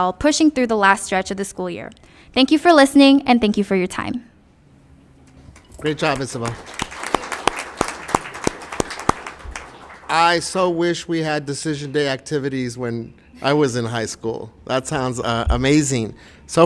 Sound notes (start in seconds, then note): 5.3 applause